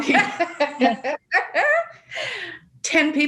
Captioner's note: laughs